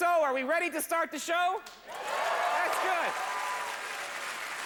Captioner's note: hoots, cheers and applause; upbeat, applause